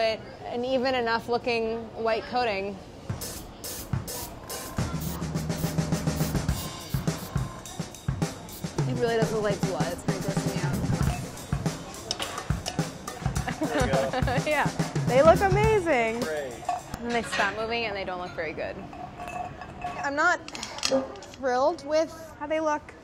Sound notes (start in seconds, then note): 2.9 upbeat drum beat; 4.0 airbrush sprays; 13.2 laughs